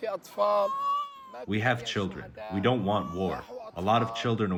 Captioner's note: through translator